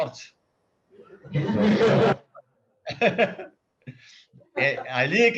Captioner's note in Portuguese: risos